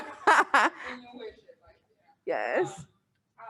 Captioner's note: laughs; mumbles